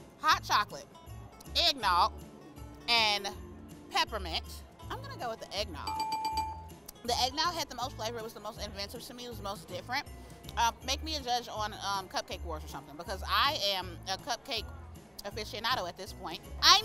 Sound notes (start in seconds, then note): 5.8 bell dinging